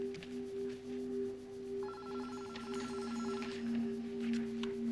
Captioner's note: telephone rings